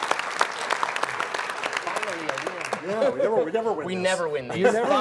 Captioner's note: applause